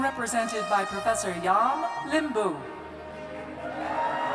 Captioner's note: cheers